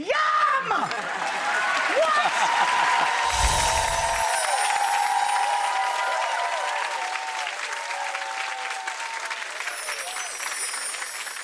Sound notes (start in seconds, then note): 1.2 audience applauds; 3.2 bells chime